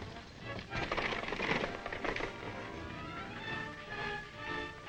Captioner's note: horses galloping